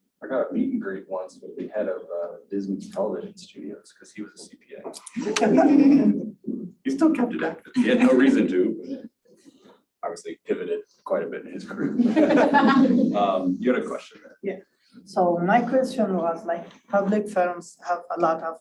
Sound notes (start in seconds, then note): 6.1 audience laughs